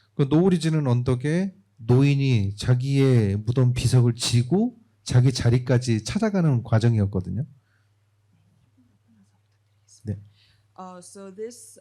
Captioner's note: speaking korean